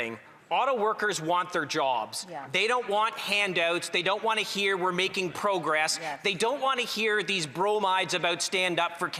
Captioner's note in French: voix de l'interprète